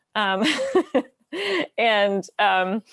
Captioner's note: laughs